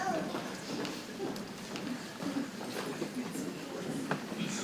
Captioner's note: people chattering softly